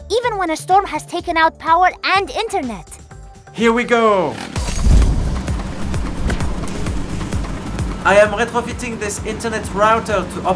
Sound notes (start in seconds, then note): 4.6 engine rumble; 4.6 upbeat music